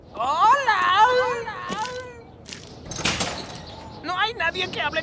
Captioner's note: echoing